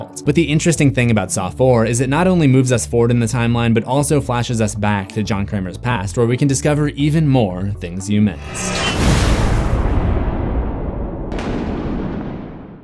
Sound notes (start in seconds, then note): 8.4 impact